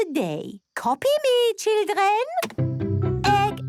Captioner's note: clicks; singing